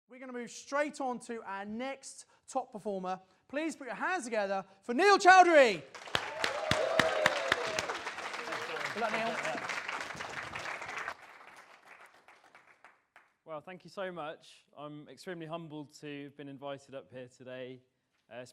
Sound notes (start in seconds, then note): 5.9 audience applause